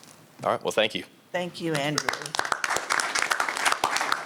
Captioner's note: applause